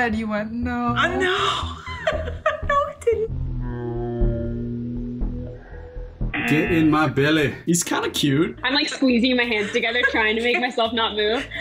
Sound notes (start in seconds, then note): 1.1 laughs; 6.3 buzzer